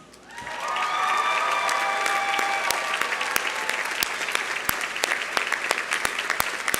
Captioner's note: audience cheering; audience applauding